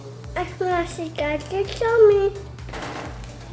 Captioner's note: baby talk